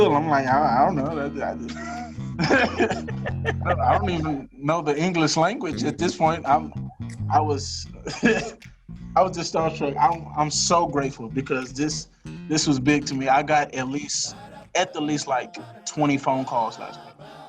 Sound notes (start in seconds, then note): 0.5 laughs; 7.4 laughs